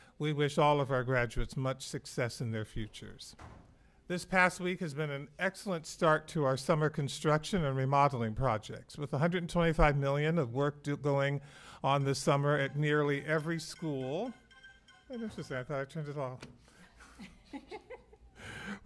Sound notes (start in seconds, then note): 14.6 phone ringing